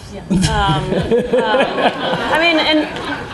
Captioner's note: laughing